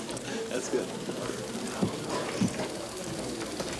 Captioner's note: crowd chattering